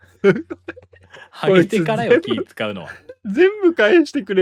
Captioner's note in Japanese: 笑い